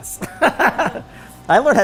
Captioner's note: laughter